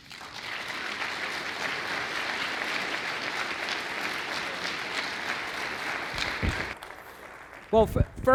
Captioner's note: applause